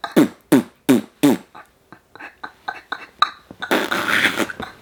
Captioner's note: blowing raspberry